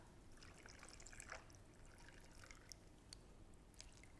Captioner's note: margarita pours